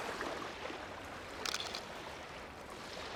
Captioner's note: shutter clicks